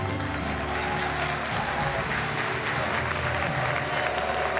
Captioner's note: members applauding